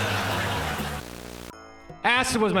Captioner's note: static